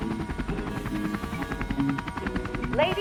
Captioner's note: bright chime